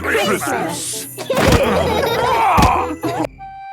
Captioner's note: laughing